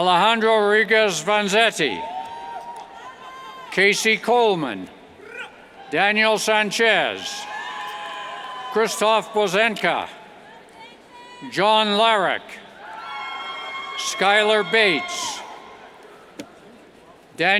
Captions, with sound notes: Alejandro Regez Vanzetti, Casey Colman Daniel Sanchez, Krzysztof Bozentka, John Lawreck, Schulyer Bates, (cheers)